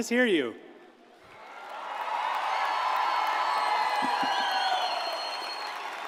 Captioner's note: audience cheers and applauds